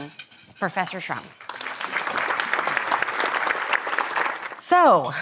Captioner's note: audience applauding